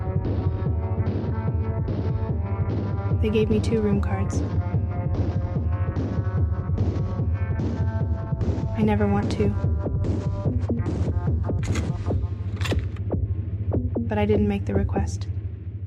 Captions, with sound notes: They gave me two room cards. I never want two. (loud keycard sound) (ominous music fades) But I didn't make the request.